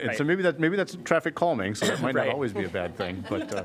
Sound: laughter

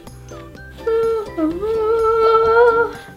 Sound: humming

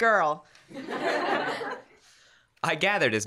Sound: laughter

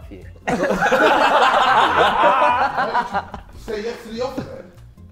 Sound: Sidemen laughing

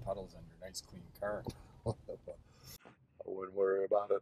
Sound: chuckles

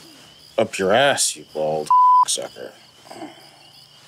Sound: beeping

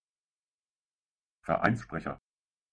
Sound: fast Pronunciation

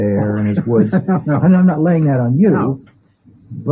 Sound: laughs

